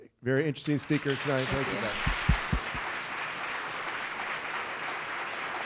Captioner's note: audience clapping